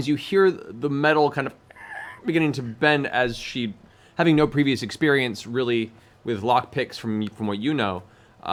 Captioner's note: creaking